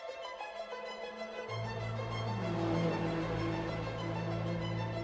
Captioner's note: car engines roaring